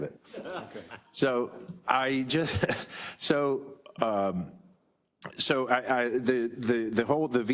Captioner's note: laugh